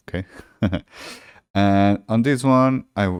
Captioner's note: chuckles